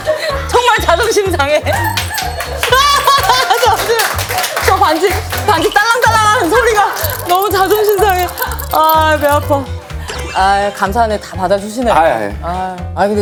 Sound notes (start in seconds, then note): 1.8 jingle jangle